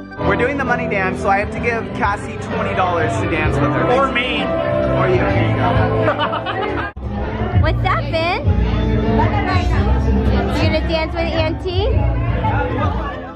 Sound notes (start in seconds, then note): 5.8 laughs; 13.1 slow pop music